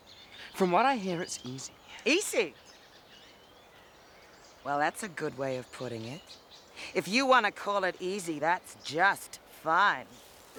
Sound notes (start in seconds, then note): none